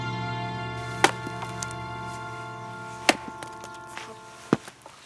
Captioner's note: wood thumping